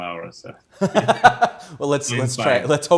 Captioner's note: both laughing